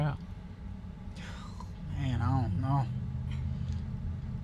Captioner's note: sigh